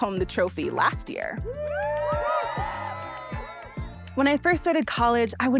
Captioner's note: crowd cheering